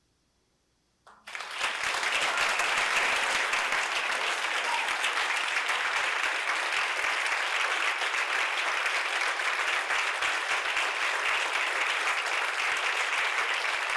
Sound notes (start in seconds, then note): 1.0 applause